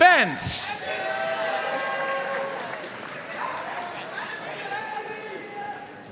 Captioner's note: audience cheering and applauding